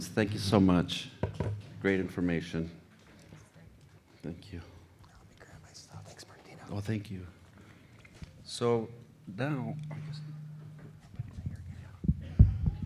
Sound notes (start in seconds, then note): 4.9 whispering